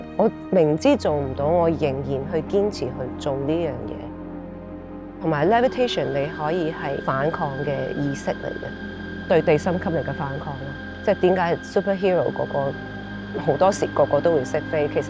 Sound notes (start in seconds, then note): 5.1 high whirring